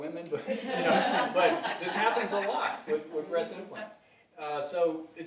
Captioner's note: audience laughing